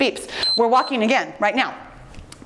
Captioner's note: timer beeps